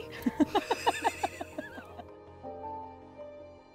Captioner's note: both laugh